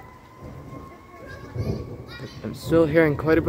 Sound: distant thunder

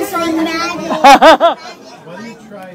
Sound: laughter

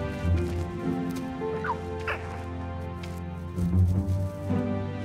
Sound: playful music; Grogu cooing

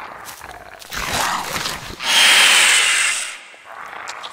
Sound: nails-on-chalkboard shriek

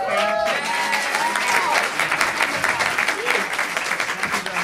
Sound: audience cheering

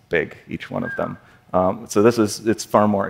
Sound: whistle

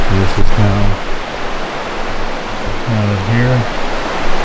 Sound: water rushing

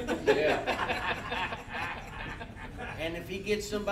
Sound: all laughing

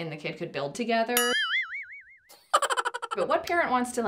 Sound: dumb bell + cackling chipmunk sound effect

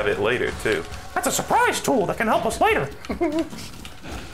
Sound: Mickey voice; giggles

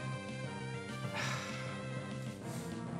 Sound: sighs

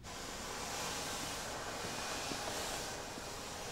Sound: vacuum whirring

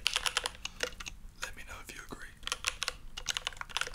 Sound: whispers

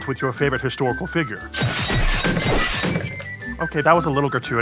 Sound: guillotines chopping

